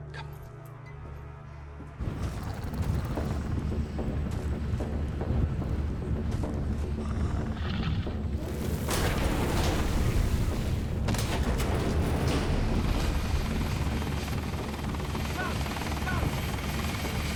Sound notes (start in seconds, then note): 2.0 dramatic music; 9.2 dinosaurs growling; 13.8 helicopter blades whirring; 17.1 dramatic music